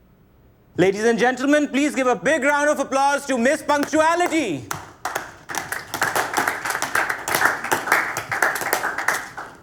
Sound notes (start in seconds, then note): 4.6 clapping